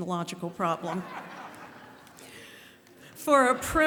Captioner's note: laughter